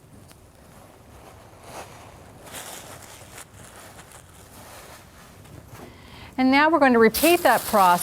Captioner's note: paper rustling